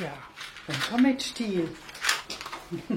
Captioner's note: laughing